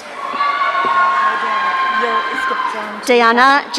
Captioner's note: audience cheering